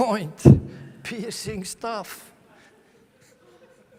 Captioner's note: laughter from the audience